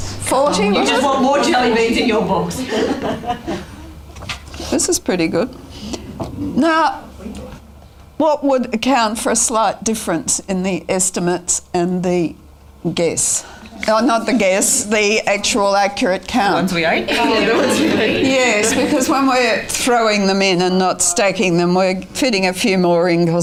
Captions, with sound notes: 140, was it? [audience chatter] This is pretty good. Now what would account for a slight difference in the estimates and the accurate count? Yes. Because when we're throwing them in and not stacking them, we're fitting a few more in,